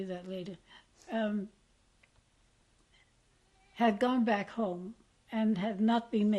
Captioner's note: pauses for 3 seconds